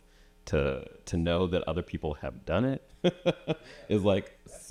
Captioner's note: chuckles